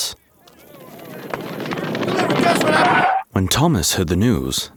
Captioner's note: footsteps pounding